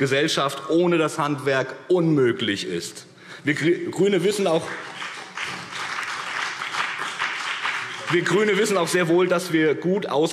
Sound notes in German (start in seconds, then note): 4.5 Beifall BÜNDNIS 90/DIE GRÜNEN und vereinzelt CDU